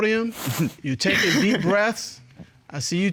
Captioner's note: chuckles